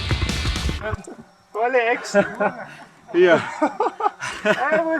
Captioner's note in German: gelächter